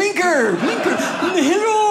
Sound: audience laughing

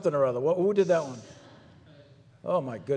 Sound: people laugh

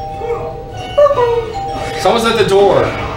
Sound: makes a doorbell sound

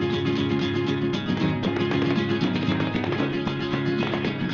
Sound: heels clicking with music

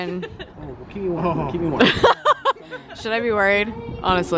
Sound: laughing

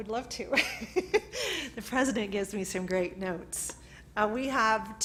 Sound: laughs

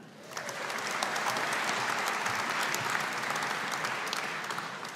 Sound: audience applauding

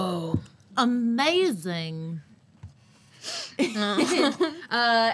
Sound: laughing

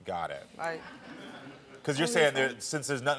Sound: audience laughs

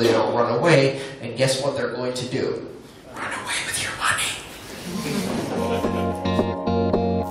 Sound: whispers; laughter

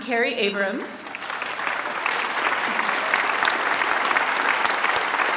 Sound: applause

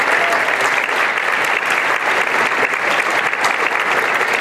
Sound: applause

